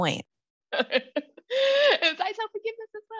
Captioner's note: laughs